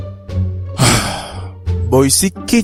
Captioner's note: sigh